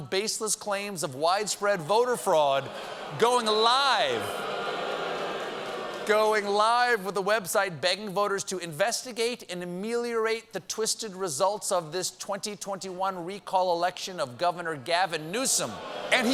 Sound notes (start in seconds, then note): 2.0 booing